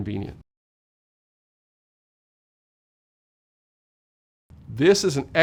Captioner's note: no audio